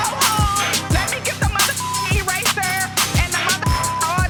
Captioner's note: beep; beep